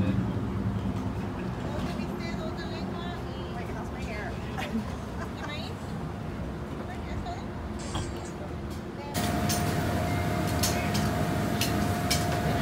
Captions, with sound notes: *Laughs* How's my hair?